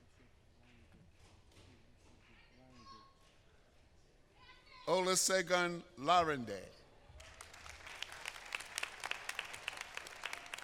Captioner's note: applause